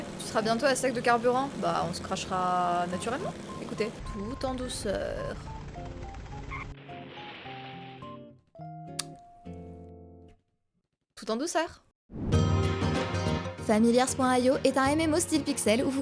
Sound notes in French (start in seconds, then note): 6.9 roulettes qui crissent puis crash